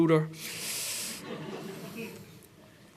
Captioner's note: laughter